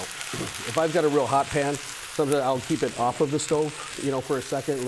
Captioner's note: food sizzling